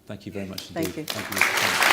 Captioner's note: audience applause